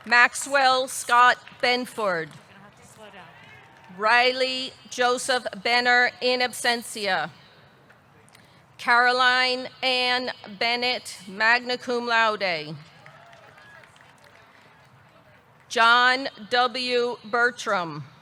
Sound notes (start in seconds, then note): 12.9 audience clapping; 13.0 audience cheering